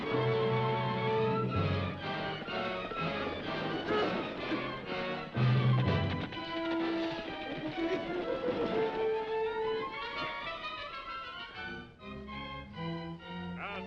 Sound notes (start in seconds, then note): 0.1 horse hooves clopping; 4.5 dramatic music; 7.1 horse hooves clopping; 10.4 dramatic music